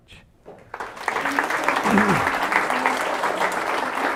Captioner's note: applause